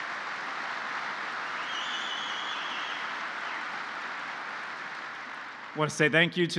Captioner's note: applause